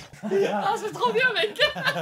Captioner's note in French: rires